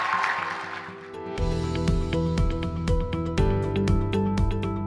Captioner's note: cheers and applause